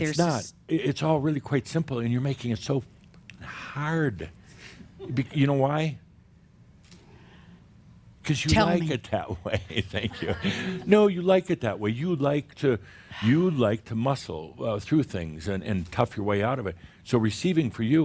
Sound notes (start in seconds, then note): 6.0 slight pause; 8.5 she chuckles; 9.3 Adamus chuckles